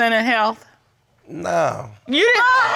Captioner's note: audience groans